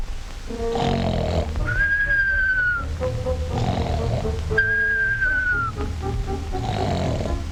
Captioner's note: mischievous music; turtle snoring